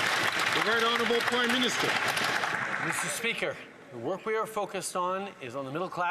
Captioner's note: some Applause